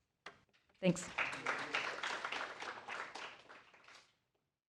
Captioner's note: applause